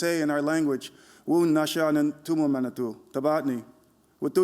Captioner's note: non-english speech